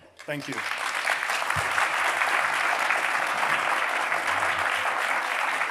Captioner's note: audience applauding